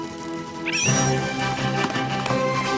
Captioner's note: all shriek